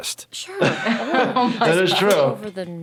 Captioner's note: laughing